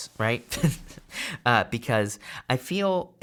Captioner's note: chuckles